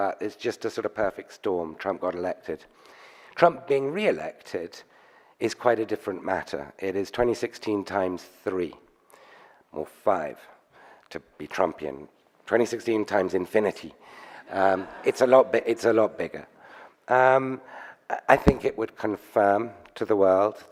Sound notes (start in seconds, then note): 14.5 audience laughs